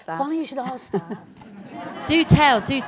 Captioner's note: laughter